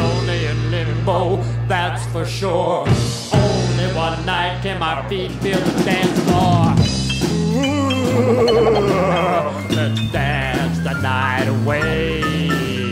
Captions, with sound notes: It's lonely in limbo that's for sure Only one night can my feet feel the dance floor. [maniacal laugh] Let's dance the night away...